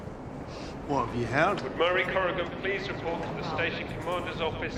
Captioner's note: Harper over P.A